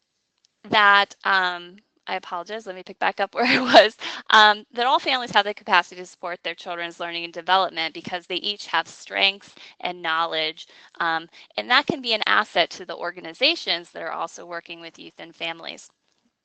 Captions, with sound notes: And that, I apologize, let me pick back up where (chuckles) I was, that all families have the capacity to support their children's learning and development because they each have strengths and knowledge and that can be an asset to the organizations that are also working with youth and families,